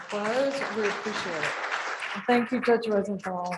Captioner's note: audience applauding